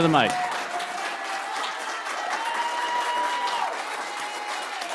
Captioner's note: cheers, applause